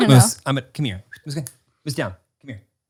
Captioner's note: whistles